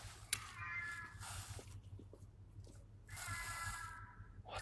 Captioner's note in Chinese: 猫叫声